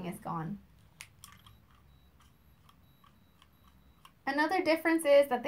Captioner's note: Femometer beeping